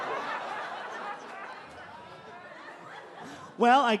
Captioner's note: laughs weakly; audience laughs